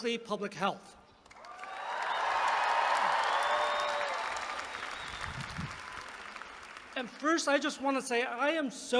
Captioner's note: applause